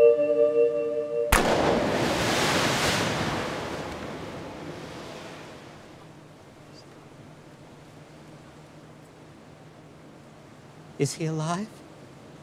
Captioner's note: splash